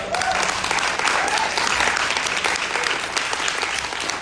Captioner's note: audience applauding